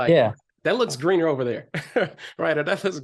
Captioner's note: chuckles